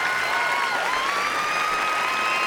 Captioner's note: cheering and applause